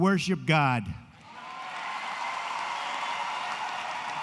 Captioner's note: applause